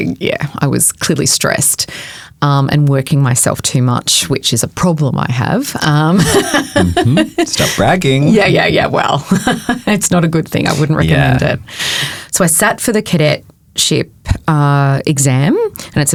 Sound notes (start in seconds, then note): 6.1 laughing; 9.2 chuckling